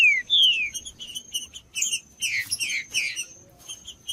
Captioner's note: trinca ferro cantando